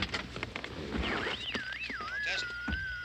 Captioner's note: electronic whirring